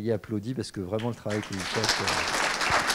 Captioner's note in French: applaudissements